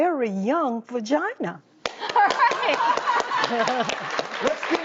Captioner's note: audience laughs